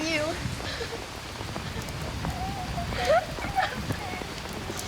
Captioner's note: crying